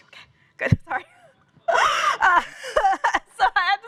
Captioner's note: laughter